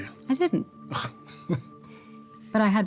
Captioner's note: chuckles